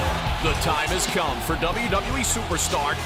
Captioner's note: crowd cheering